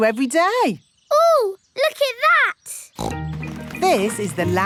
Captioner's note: snorts